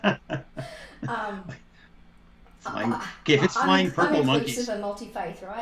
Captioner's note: laughter